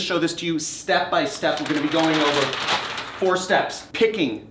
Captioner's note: paper crinkling